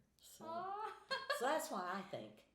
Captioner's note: laughing